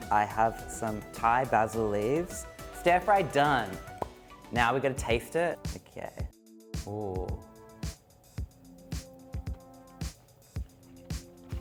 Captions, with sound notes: I have some Thai basil leaves. Stir fry done. (popping sound) Now we gotta taste it. Okay. Ooh. (upbeat music)